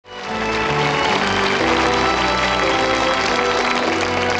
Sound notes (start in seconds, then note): 0.0 audience applauds; 0.0 slow instrumental music